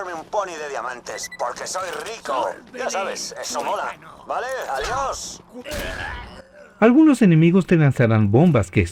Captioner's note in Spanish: gemido